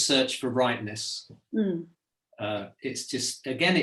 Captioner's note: hums